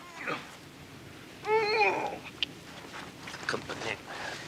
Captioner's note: Mikey grunts